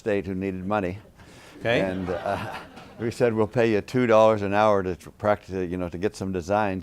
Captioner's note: laughter